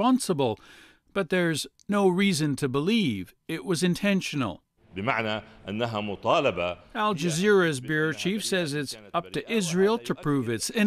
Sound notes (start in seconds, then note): 9.4 speaking alternate language